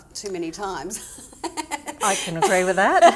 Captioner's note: laughing